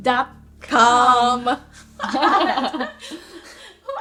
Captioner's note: both laugh